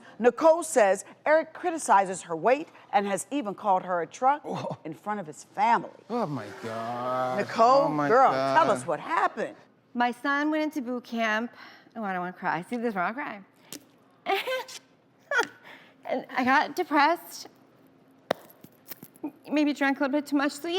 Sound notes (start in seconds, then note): 14.2 laughs